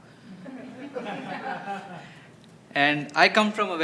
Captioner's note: laughter